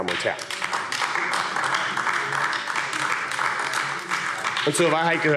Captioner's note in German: Beifall AfD